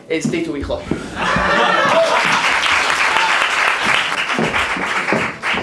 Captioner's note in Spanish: Risas y aplauso